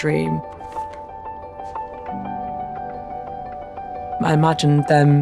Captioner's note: bright music; letter rustling